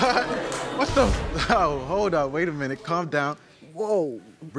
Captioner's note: audience gasps